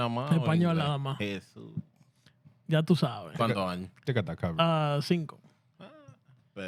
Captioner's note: speaking Spanish